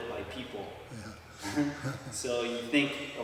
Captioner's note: chuckle